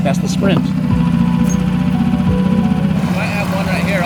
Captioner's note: motor boat whirring